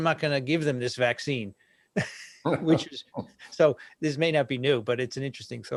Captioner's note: laughs